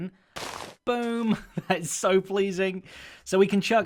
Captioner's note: boom